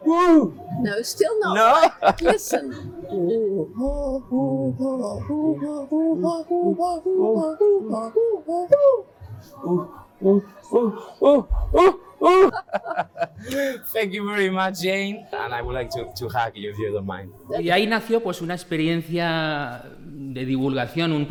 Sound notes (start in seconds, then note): 2.8 laughs; 3.0 make chimpanzee sounds; 12.2 laughs